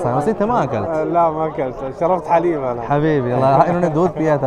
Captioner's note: Arabic